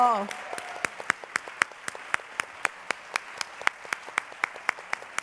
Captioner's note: applause